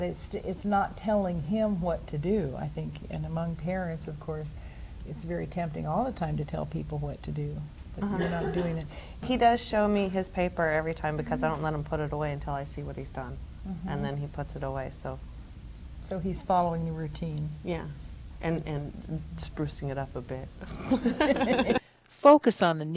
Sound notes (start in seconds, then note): 20.7 laughs